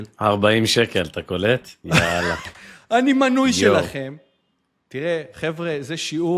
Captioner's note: laughter